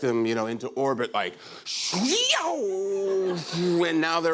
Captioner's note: whooshing